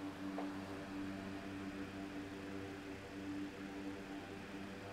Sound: fans continue to blow

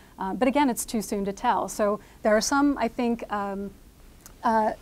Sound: none

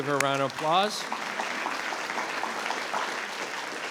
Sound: all clapping

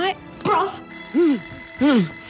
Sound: alarm clock rings

